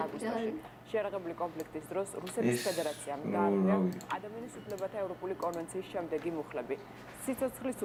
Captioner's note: kids talking about the game while news continues